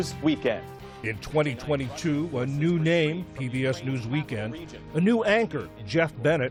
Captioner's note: voice-over